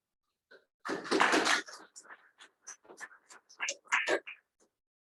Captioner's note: audience applauding